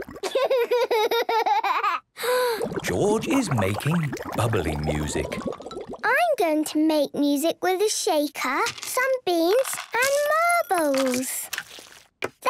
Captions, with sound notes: - Hee, hee, hee! - (inhales deeply, water bubbling) - George is making bubbly music! - I'm going to make music with a shaker, some beans, and marbles!